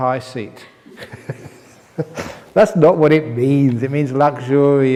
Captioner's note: chuckles